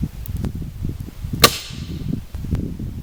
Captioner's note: snap